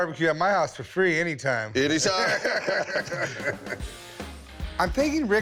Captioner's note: both laugh